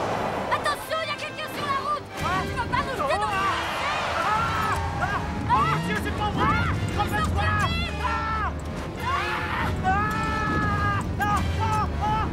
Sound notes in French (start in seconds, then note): 4.8 en criant; 8.8 en criant; 9.0 homme criant; 12.1 musique orchestrale pleine de suspense